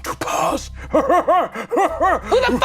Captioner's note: laughing manically